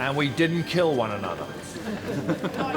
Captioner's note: crew chuckling